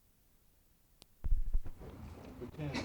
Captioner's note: paper rustling